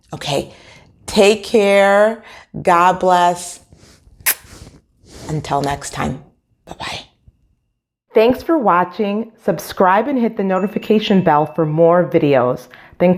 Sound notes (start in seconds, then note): 4.2 woman makes kissing sound